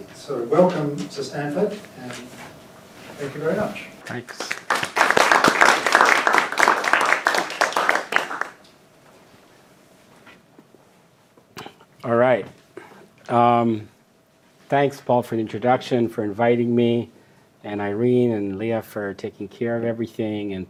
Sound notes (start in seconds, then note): 4.1 audience applauds